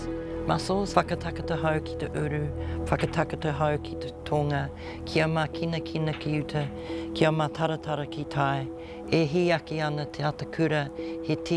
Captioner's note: performs karakia in te reo Māori